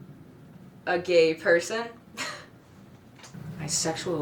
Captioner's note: laughs